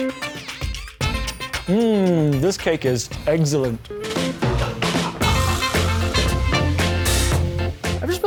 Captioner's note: celebratory mouth trumpets